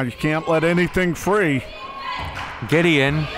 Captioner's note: claps